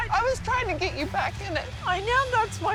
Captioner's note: voice breaking